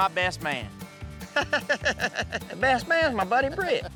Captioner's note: laughing